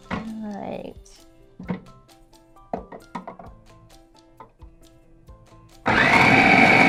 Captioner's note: cauliflower thuds; processor whirs